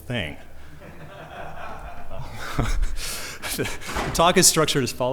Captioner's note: laughter